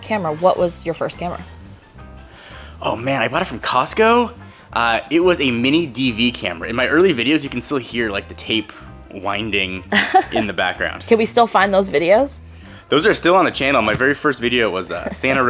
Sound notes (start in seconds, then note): 9.9 laughs